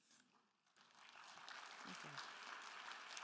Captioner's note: attendees applauding